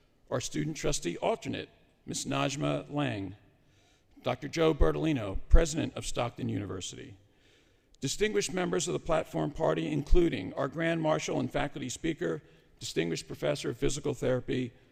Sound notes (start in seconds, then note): none